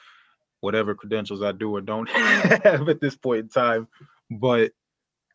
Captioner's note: laughter